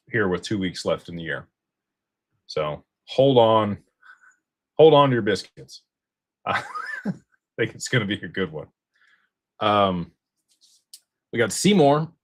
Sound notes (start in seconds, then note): 6.5 laughter